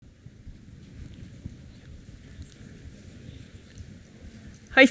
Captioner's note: silence